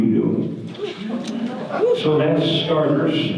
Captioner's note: audience gasp